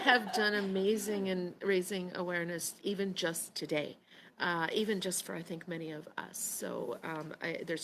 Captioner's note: laughter